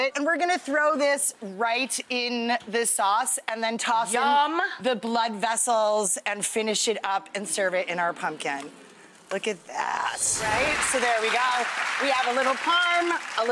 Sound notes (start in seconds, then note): 10.1 whoosh and cymbal